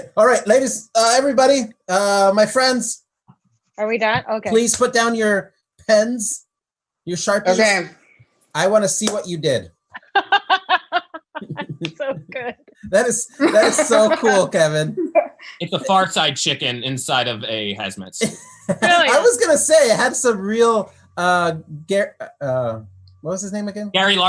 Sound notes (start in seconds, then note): 10.2 laughs